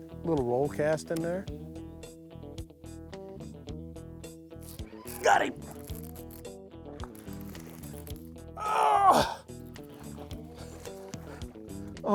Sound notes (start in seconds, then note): 8.6 grunting